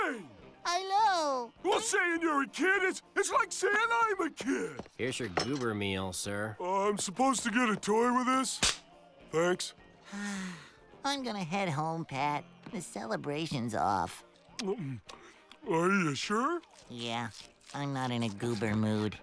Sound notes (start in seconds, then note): 9.7 sighing